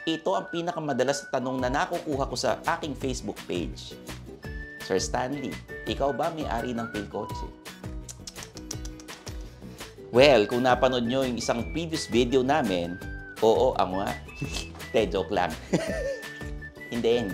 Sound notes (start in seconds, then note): 15.6 chuckles